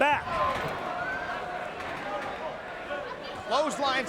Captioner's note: crowd chattering